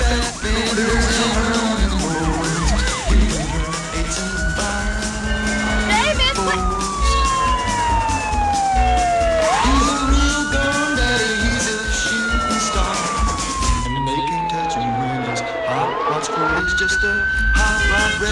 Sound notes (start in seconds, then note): 8.2 siren